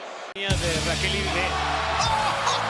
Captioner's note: laugh